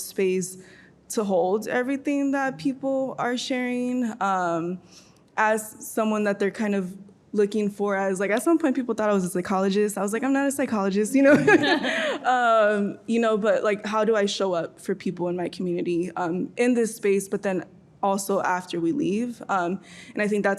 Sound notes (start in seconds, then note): 11.2 laughing